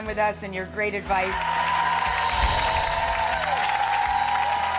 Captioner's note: audience applause